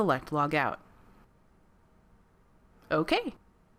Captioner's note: silence